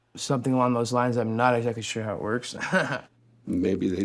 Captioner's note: laughs